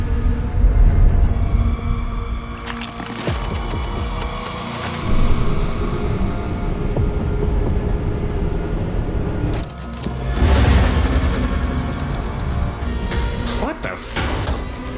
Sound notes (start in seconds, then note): 2.4 squelching